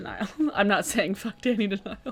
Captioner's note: laughing